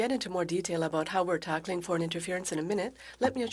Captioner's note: speaking French